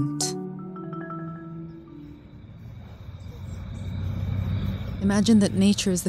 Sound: insects trilling

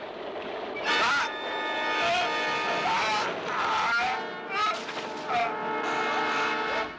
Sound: Gary grunting; dramatic music

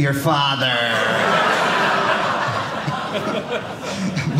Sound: audience laughing

